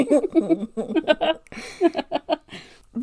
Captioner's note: laughs